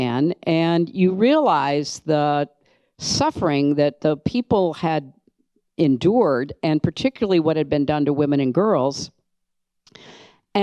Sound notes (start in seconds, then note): none